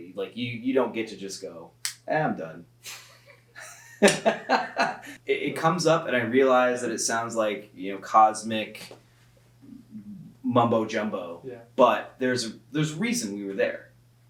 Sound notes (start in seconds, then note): 3.5 both laugh